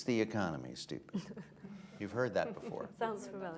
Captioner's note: laughter